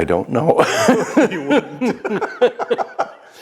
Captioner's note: laughing